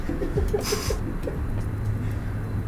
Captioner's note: giggling